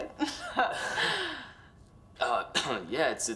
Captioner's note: laughs